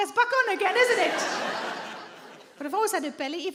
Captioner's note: audience laughing